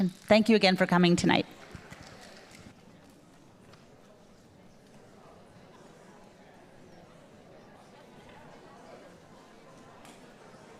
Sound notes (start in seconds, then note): 5.5 audience indistinctly chatting